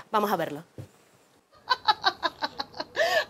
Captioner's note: laughs